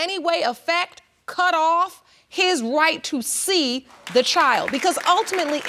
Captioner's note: audience applauds